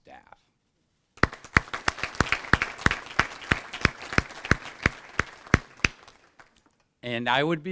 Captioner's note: applause